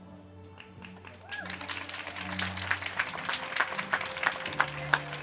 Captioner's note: audience cheers and claps